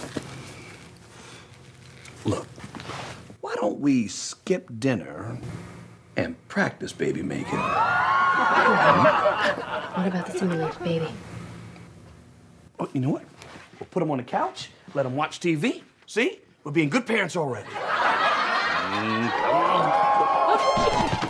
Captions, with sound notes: - Look, why don't we skip dinner and practice baby-making? (audience whoops) - What about the simulated baby? - You know what, we'll put him on the couch, let him watch TV, see? We're being good parents already. (audience laughs)